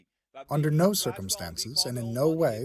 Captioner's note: through translator